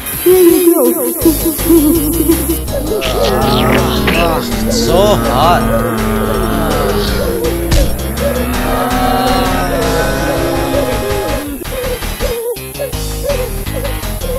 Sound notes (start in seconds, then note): 1.5 giggling; 2.6 all Moaning